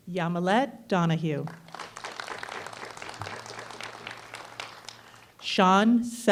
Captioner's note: applause